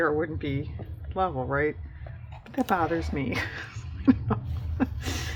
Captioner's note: laughs